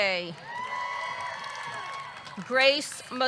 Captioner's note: audience clapping; audience cheering